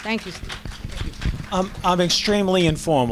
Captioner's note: applause